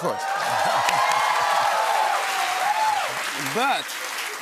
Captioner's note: cheering and applause